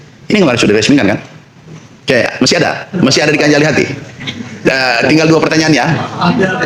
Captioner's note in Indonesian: tertawa